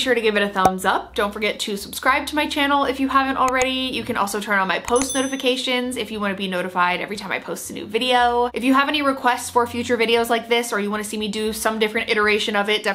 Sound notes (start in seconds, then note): 0.8 thumb pops; 3.5 mouse clicks; 4.9 bell rings; 5.1 mouse clicks